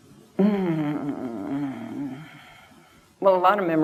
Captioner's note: groans